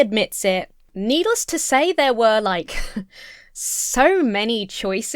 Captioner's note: chuckles